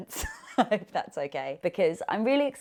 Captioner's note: laughing